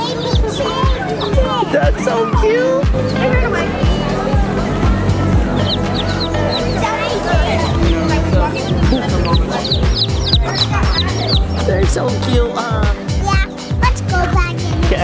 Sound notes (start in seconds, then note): 5.9 chicks chirping; 9.2 chicks chirping